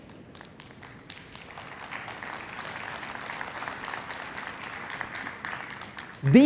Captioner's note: applause